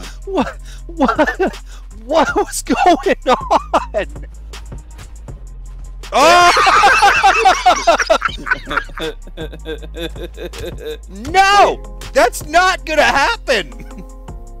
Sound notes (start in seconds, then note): 6.1 hysterical laughter; 8.9 laughter